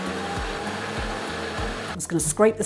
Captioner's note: blender rumble